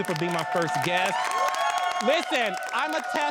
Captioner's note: all cheering